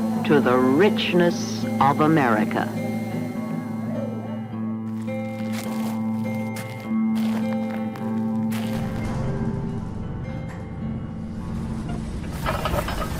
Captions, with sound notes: to the richness of America. [sounds of footsteps in gravel] [sounds of mining machinery]